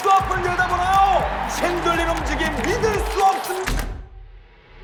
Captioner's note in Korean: 쾅 소리